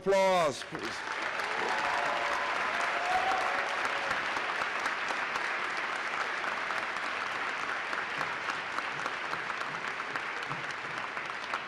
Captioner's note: applause